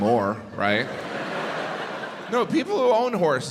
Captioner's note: crowd laughs